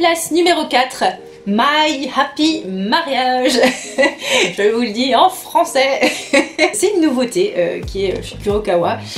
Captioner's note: French accent